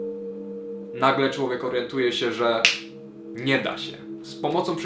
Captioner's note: snap